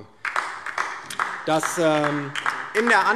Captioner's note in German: Beifall DIE LINKE